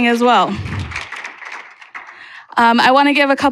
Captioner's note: applause